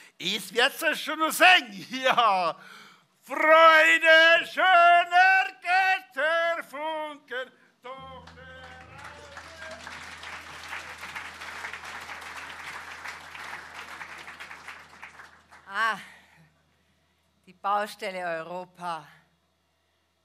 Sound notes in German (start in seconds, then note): 3.8 singt; 8.1 Applaus